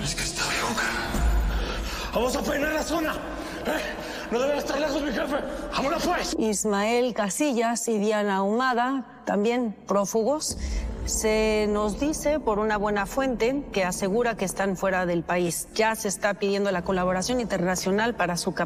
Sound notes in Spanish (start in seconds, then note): none